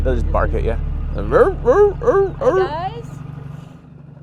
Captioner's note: barks